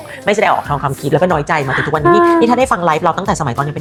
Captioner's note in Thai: เสียงหัวเราะ